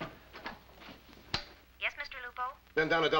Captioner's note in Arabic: تعليق صوتي